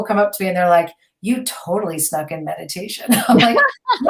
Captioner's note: laughing